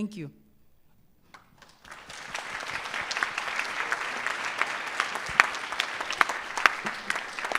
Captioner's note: applause